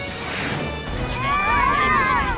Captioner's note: screaming